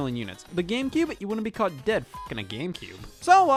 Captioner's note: beep